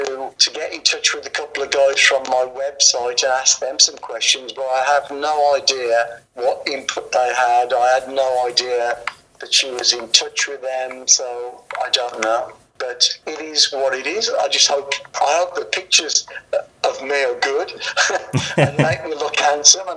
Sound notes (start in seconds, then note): 18.3 laughs